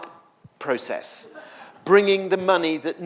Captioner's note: audience laughs